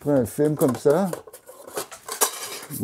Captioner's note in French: cliquetis